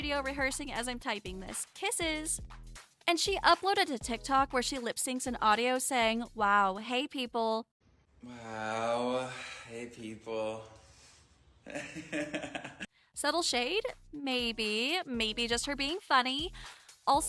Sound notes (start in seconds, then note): 11.7 awkward Laugh